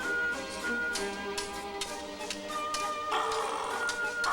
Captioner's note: swords clashing; vulture caws